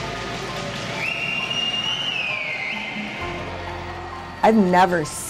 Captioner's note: cheering / chanting